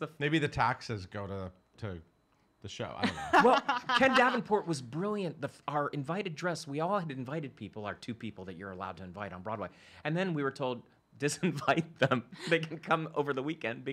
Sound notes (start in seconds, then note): 11.5 chuckles